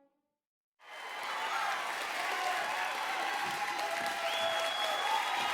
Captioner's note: audience applauding